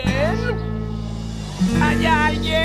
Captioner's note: echoing